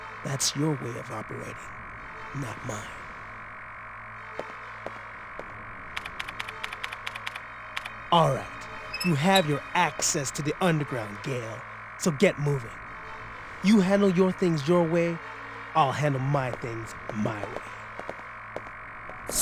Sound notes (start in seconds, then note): 5.9 typing